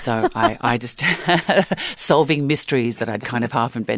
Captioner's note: laughter